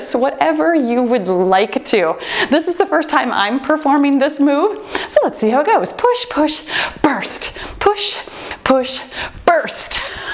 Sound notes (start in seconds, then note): 3.6 timer beeps